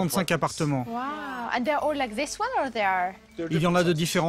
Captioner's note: in English